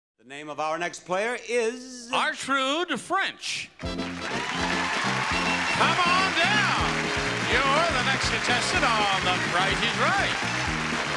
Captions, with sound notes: The name of our next player is... Artrude French. (audience cheer) (jaunty music) come on down! You're the next contestant on, "The Price is Right".